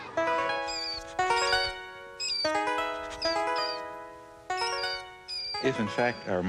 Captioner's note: gentle music; mouse squeaking